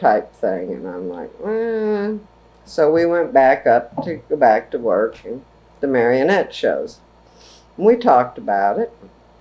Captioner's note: hesitant noise